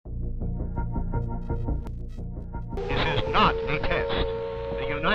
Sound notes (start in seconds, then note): 0.4 sirens